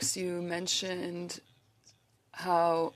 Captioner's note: speaking French